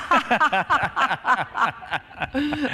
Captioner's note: laughter